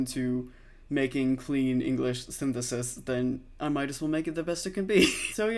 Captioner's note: laughs